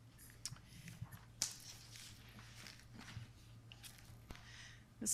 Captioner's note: papers rustling